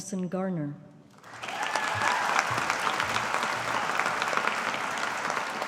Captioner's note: audience applauding